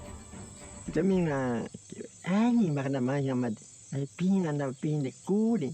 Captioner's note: speaking in foreign language